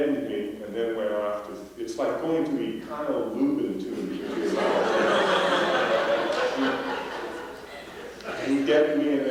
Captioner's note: laughter